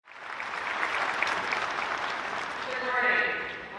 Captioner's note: audience applauding